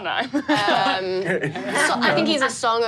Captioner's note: laughs